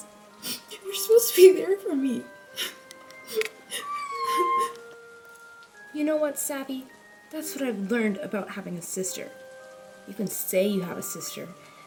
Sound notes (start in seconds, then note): 3.2 sobbing; 3.5 cricket Sounds